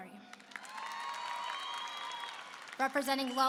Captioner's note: applause and cheering